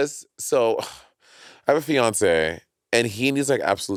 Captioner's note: sighs